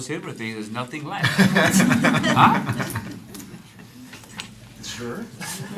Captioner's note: laughter